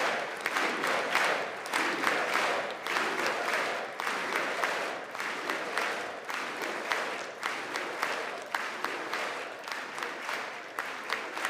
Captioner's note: audience chants "USA"